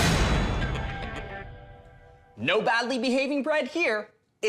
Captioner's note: door slam